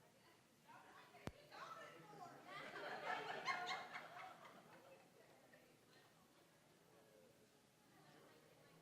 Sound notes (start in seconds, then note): 2.6 audience laughing